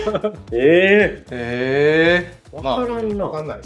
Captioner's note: laughs